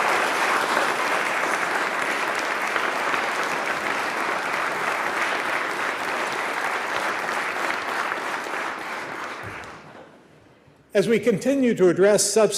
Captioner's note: applause